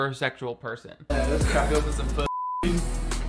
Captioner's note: beep